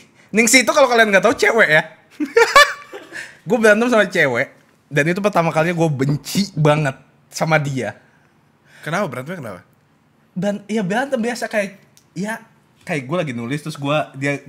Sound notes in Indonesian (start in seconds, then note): 2.3 ketawa ngakak